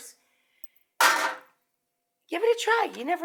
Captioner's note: metal clanks in sink